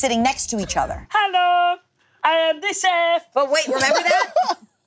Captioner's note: group laughing